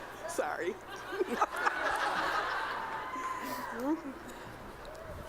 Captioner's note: laughter